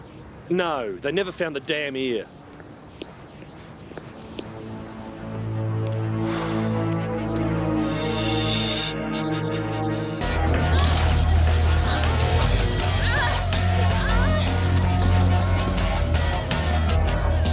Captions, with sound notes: - No, they found the damn ear. (suspenseful music) (energetic rock music) (women moaning)